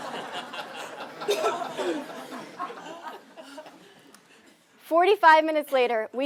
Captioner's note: laugh